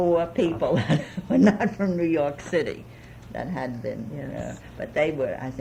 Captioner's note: laughs